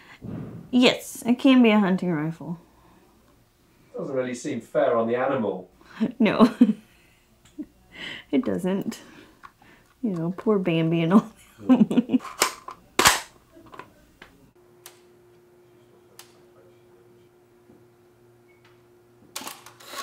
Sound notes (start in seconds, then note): 6.3 chuckles; 12.4 clicks